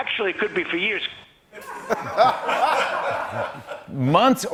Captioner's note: laughter